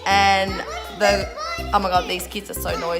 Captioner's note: kids shouting